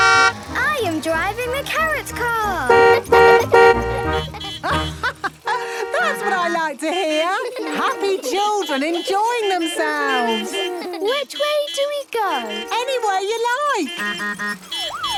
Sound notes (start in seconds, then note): 2.7 honking; 3.4 horns honking; 4.6 laughing; 10.0 laughter; 12.2 honking, siren wailing